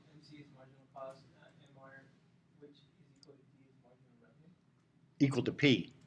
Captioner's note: student speaking quietly